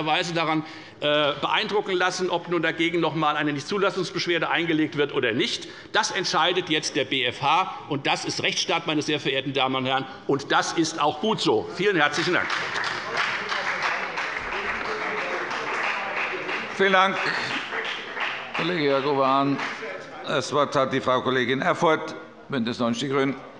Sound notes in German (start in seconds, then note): 11.7 Beifall bei der FDP und bei Abgeordneten der CDU